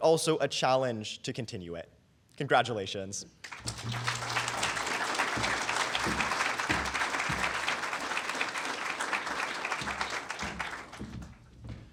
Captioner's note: applause